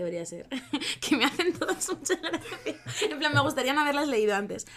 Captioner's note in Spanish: risas